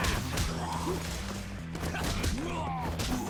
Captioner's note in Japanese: うめき声